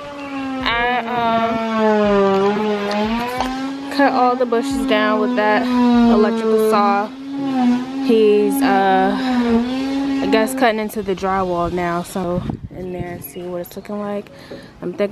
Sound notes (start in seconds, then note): 0.9 saw whirring